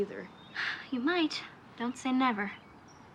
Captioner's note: exhales